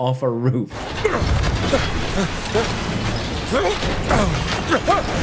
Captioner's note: Indy struggling